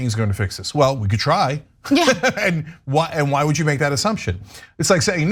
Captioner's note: laugh